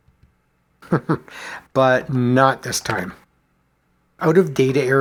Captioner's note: chuckles